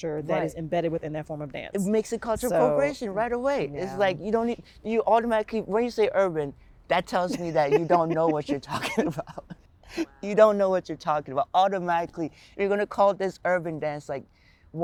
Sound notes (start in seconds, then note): 9.7 laughs